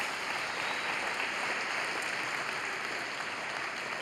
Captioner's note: cheers and applause